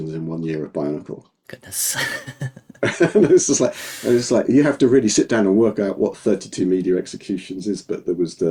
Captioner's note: both laughing